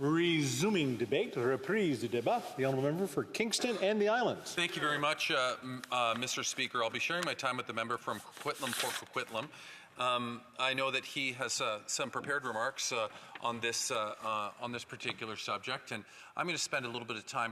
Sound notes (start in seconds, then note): 5.3 speaking French